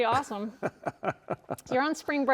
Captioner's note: chuckles